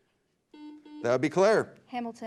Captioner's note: beep